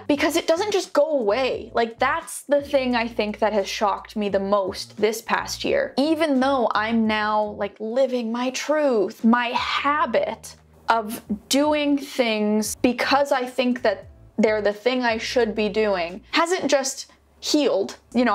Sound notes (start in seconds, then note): none